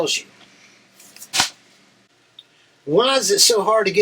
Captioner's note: notepad thuds